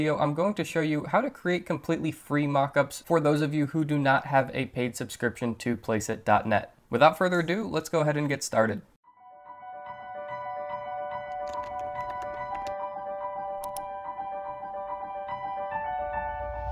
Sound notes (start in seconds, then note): 9.1 light music; 11.3 keys clacking